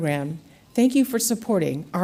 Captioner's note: none